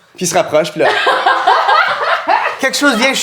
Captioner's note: laughter